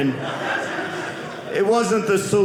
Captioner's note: audience laughing